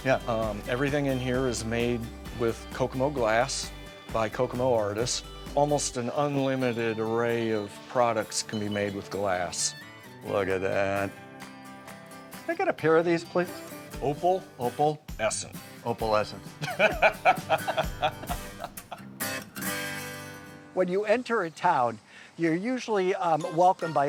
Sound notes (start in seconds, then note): 16.5 laughing; 18.4 mellow country music